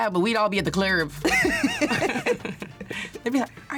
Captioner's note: laughs